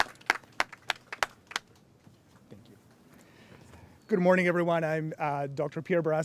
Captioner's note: applause